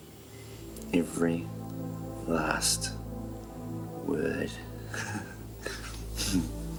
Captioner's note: laughs